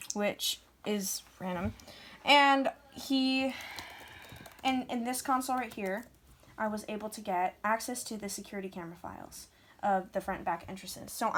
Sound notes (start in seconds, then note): none